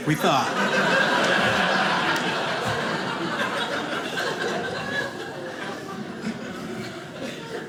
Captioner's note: audience laughing